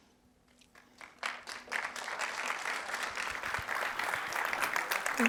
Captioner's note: applause